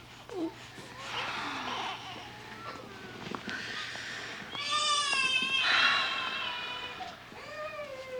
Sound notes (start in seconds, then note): 4.5 baby crying